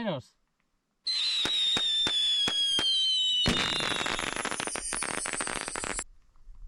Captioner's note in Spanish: Sonido de fuegos artificiales